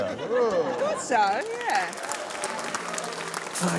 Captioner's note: cheering, applause